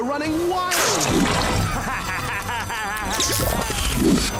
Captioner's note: Chuck cackling